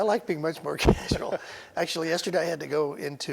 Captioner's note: laughing